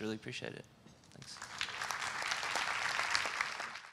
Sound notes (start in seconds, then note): 1.2 applause